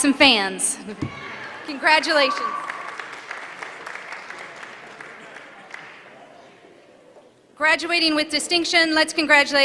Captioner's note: applause